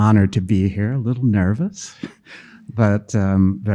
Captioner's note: chuckling